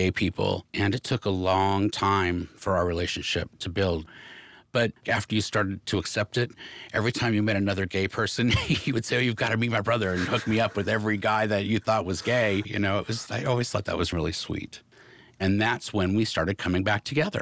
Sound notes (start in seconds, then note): 7.0 laughs; 9.9 michael laughs